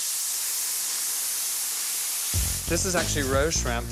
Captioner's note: sizzling